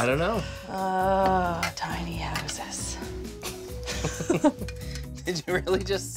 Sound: both Laugh

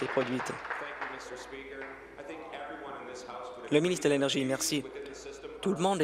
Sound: applause

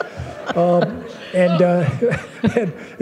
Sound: laughter

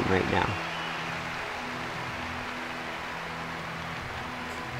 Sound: crowd cheers

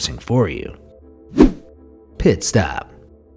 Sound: air whooshing

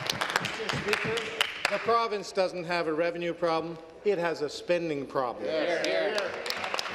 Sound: applause

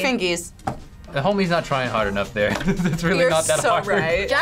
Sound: laughs

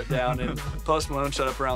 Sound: laughing

